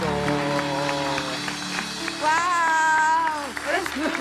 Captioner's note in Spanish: Aplauden